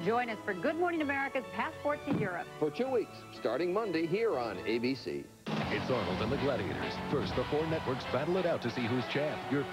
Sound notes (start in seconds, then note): 5.2 slam